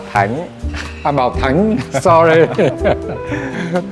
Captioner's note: laugh